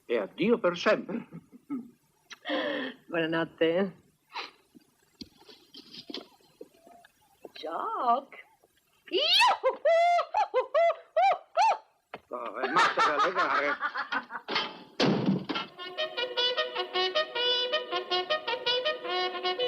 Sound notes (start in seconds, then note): 12.6 Mary laughs; 15.8 reveille plays